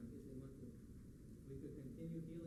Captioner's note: foreign language